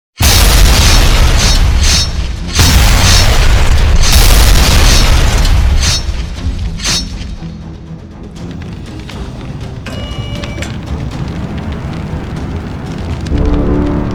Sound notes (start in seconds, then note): 0.2 explosions booming; 0.2 machine clinking; 6.4 suspenseful music; 8.4 flames whooshing; 8.4 machine whirs